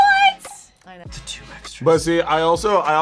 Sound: whispers

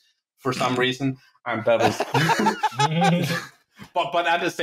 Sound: laughter

